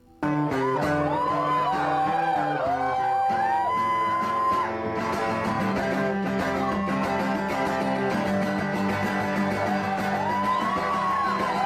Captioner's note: cheering